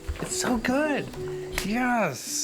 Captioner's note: hands slapping